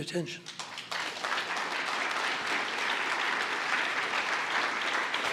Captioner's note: applause